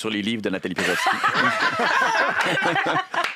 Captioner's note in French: rires